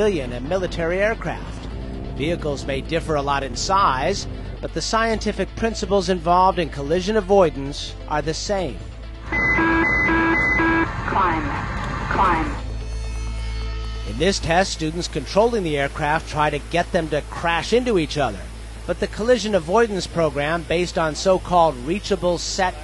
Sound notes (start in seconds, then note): 9.2 artificial voice; 9.3 beeping